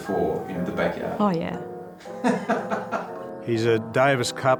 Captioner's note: laughs